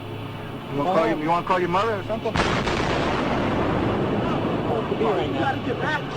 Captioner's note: explosion